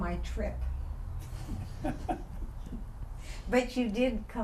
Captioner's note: laughter